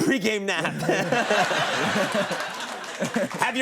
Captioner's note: audience laughing